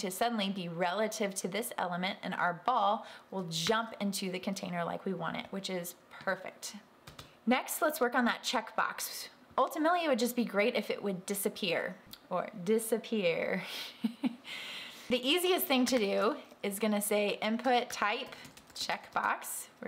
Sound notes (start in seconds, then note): 13.1 laughing